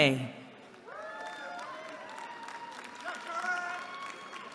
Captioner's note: cheering